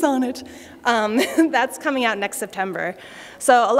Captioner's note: laughter